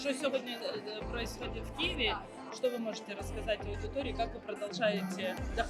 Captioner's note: translating question into Ukrainian